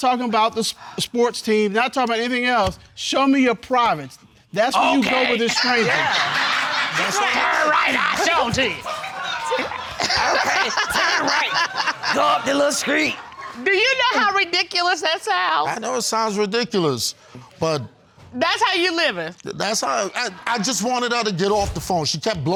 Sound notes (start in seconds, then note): 4.9 deep voice; 10.3 laughs